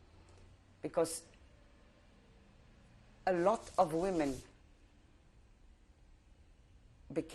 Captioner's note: pauses for 3 seconds; pauses for 3 seconds